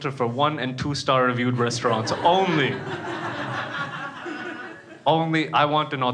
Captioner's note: crowd laughs